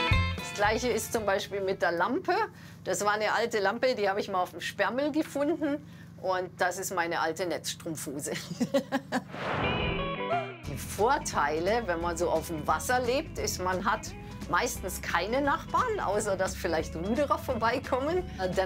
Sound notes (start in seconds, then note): 8.3 laughter